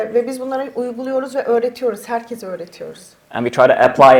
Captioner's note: speaks in Turkish